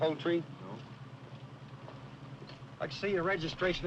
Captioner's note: footsteps approaching